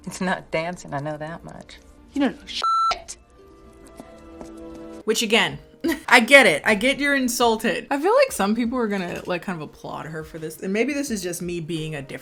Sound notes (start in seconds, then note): 2.6 beep